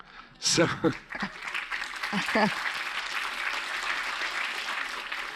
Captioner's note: audience applauds